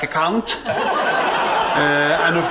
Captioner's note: laughter